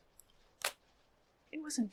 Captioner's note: fan snapping